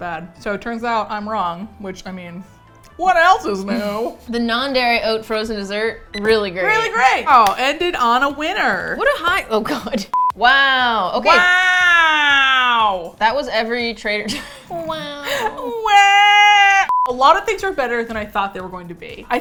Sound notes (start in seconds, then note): 10.2 laughs; 12.0 nasally